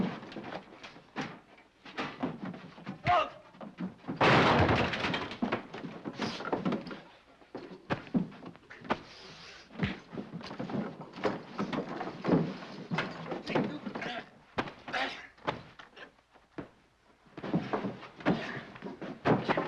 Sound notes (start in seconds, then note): 0.0 metal clang; 0.0 sounds of struggling; 3.0 Hub groans; 4.1 crash; 6.0 sounds of struggling; 7.9 thump; 12.0 sounds of struggling; 14.9 Hub grunts; 17.4 sounds of struggling